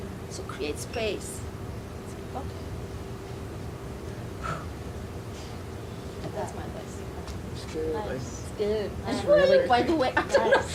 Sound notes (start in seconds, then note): 4.4 breathes out; 10.5 laughing loudly